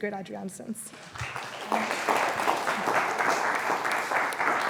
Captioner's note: applause